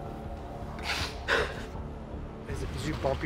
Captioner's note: crying